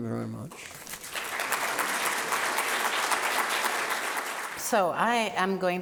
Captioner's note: audience applauding